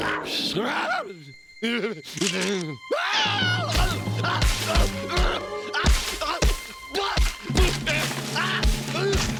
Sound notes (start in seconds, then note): 4.6 groaning